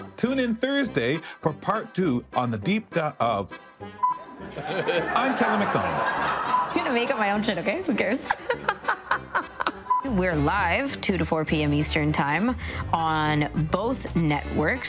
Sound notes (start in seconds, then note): 4.2 audience laughing; 8.6 laughing